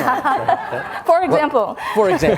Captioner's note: all laughs